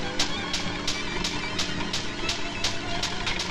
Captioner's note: none